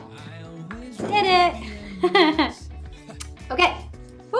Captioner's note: laughs